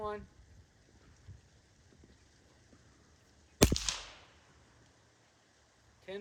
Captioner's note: gunshot